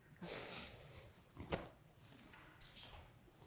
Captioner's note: sniffling